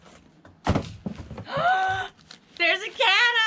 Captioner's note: gasping for air